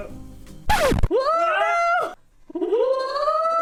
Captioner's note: scratch record sfx